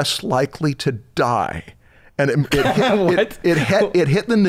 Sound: laughter

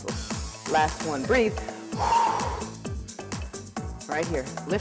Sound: breathing

